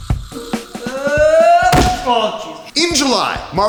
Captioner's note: falling and landing hard sound